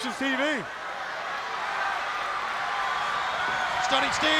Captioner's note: crowd cheering